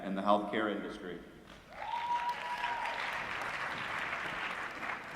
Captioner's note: applause